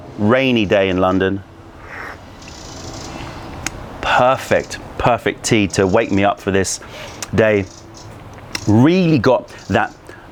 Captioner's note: sips tea